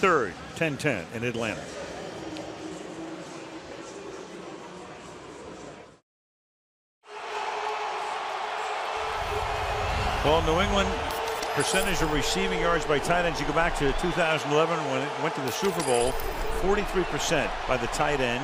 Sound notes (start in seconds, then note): 7.7 cheering